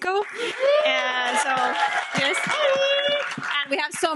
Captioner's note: audience cheering